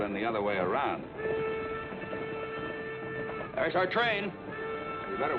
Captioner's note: train horn blaring